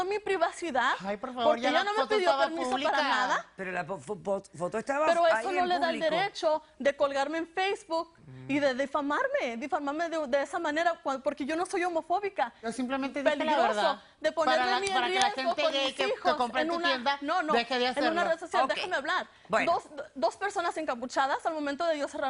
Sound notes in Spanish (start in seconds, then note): 14.9 Hablan al unísono